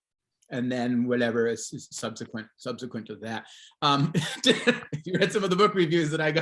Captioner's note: laughs